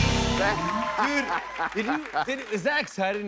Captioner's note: cheers and applause